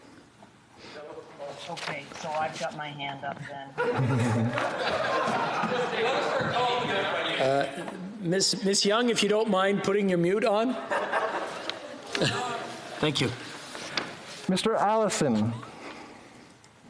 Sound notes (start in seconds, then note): 7.8 laughter